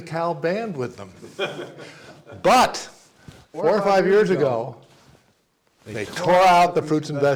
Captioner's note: laugh